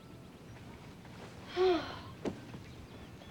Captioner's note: sighs